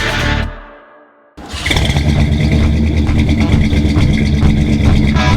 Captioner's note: car idling